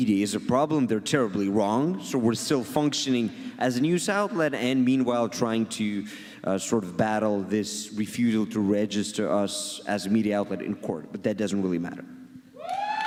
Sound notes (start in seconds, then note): 8.1 audience cheers and claps